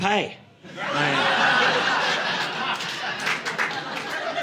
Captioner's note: audience laughing